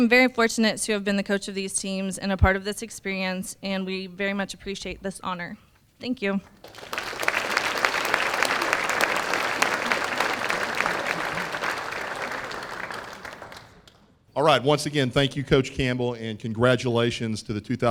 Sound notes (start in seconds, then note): 6.6 applause